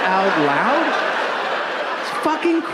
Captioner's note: audience laughing